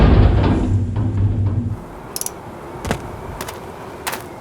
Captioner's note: none